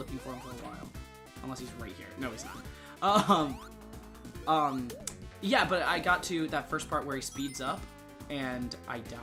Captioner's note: laughing